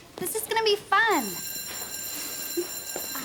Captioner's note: bell ringing